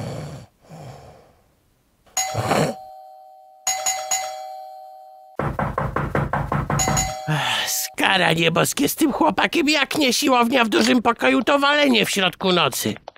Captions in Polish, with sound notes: *dzwonek do drzwi* Skaranie boskie z tym chłopakiem Jak nie siłownia w dużym pokoju to walenie w środku nocy